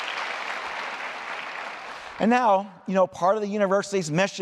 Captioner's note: applause